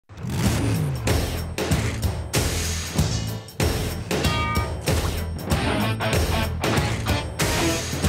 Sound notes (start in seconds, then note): 0.0 engine revving; 2.2 upbeat playful music